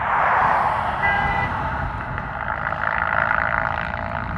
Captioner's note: horn